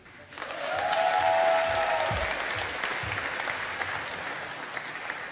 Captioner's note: audience applauding